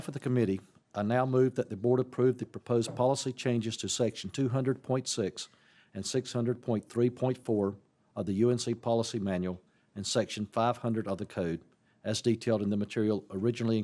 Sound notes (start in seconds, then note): none